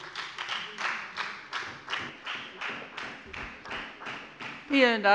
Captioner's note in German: Beifall bei der FDP und der SPD